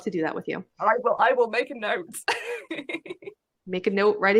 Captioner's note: laughs